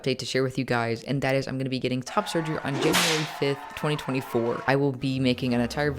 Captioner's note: cheers